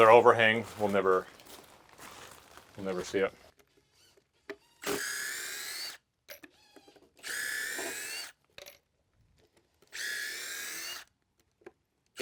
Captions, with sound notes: - With our overhang, we'll never see it. (drill whirring)